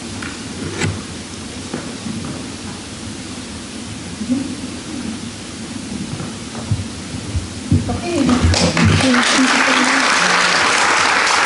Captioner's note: applause